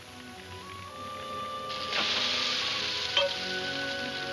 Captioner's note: sizzling